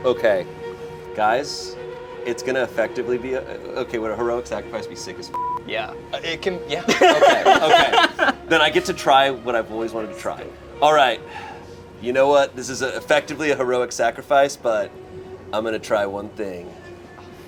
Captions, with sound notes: - Okay guys, it's gonna effectively be a, okay, would a heroic sacrifice be sick as (beep)? - Yeah, it can. - Yeah. Okay. Then I get to try what I've always wanted to try. All right. You know what, this is a effectively a heroic sacrifice, but I'm gonna try one thing.